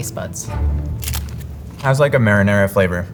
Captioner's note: mouth crunching